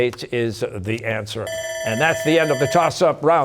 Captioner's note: bell ringing